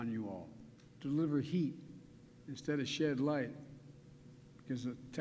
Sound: none

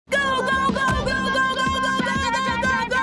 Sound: shouting

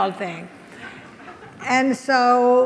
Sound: audience laughs

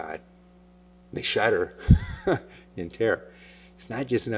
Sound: laughs

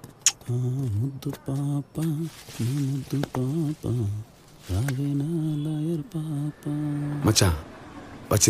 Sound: humming

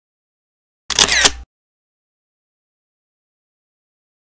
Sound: camera shutters

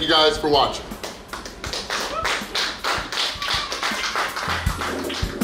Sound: cheers and applause; upbeat music

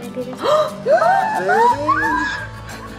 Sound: gasps

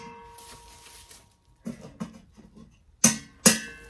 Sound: pot handles clink; plastic rustles

